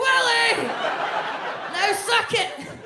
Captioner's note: audience laughs